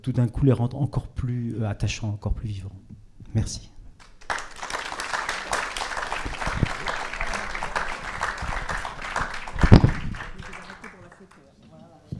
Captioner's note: applause